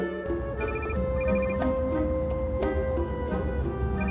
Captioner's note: phone rings